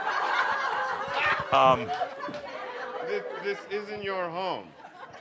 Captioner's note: lots of laughter